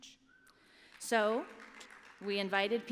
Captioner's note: applause